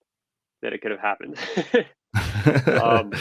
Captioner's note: laughs